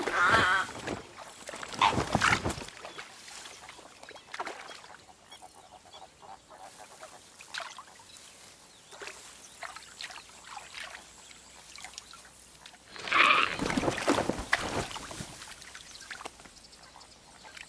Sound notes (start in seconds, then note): 0.0 squawks; 13.0 squawks